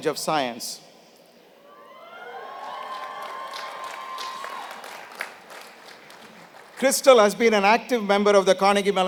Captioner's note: applause